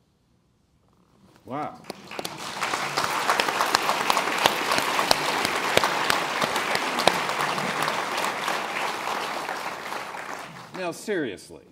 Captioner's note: applause